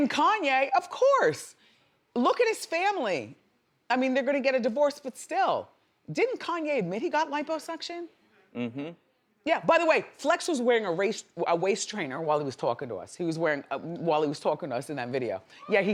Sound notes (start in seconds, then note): none